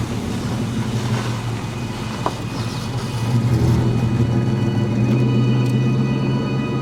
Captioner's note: engine purring; tense music